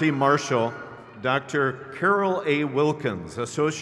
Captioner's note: crowd cheers